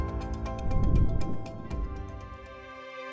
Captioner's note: graphics whooshing; bright music